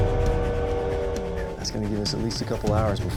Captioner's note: train chugging